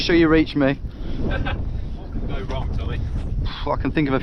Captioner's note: chuckles